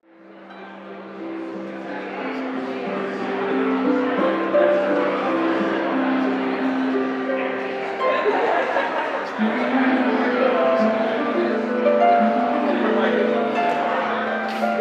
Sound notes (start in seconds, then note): 0.4 audience chattering; 4.5 gentle harp music